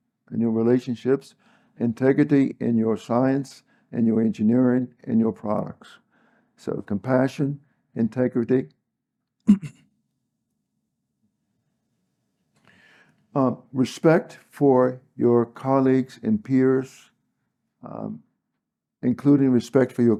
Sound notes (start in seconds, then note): 9.4 cough